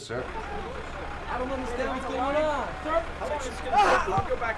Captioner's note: all shouting